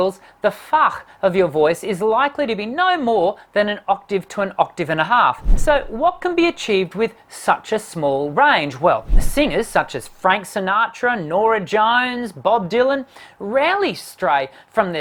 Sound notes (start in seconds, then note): none